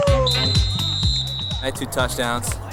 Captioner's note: whistle